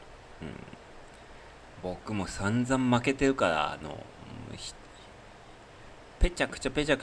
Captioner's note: clears throat